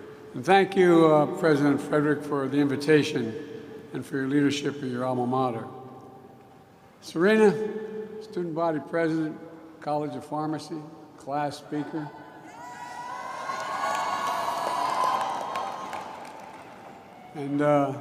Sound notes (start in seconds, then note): 13.4 applause